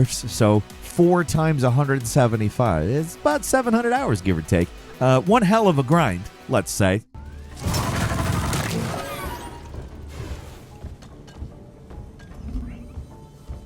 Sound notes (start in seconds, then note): 7.5 guns firing and whirring